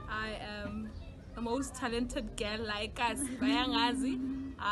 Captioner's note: chuckles